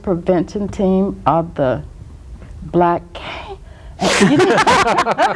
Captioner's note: gasping; group laughs